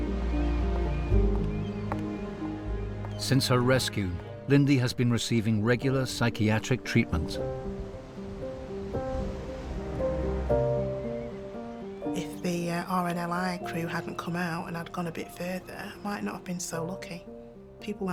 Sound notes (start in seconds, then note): 0.3 birds squealing; 1.1 footsteps clomping; 7.4 water whooshing; 7.4 wind whooshing; 9.3 pensive music